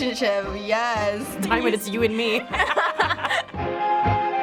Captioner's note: both laugh; tango music